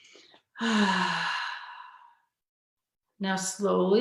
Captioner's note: sighs